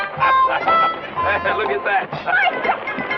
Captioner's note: whimsical music; chuckling